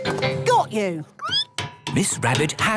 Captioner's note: squeaking